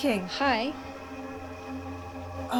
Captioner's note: woman's Voice